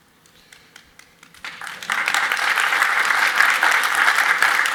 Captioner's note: audience applauds